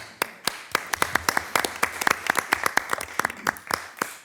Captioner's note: everyone applauds